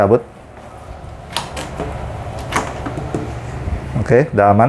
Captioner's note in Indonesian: suara kabel dilepas